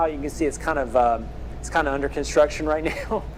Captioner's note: chuckle